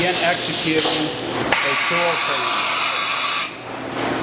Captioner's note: machine hiss drowns out speaker